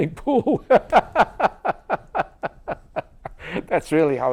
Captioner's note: laughter